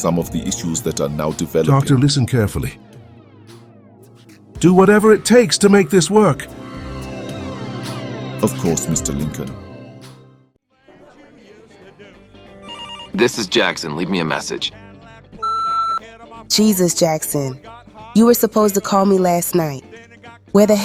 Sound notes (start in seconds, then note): 10.8 restaurant sounds